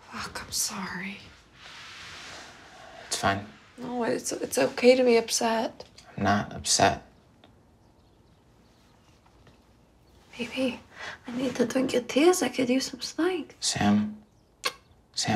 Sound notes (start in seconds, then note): none